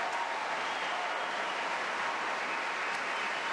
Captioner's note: applause